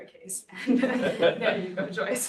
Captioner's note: audience laughs